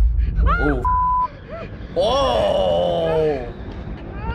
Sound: boy gasping; boy yelling

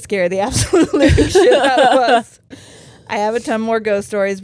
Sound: both laughing

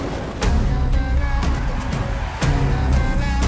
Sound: cheering; eerie music intensifies

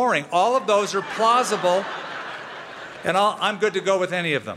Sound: laughter

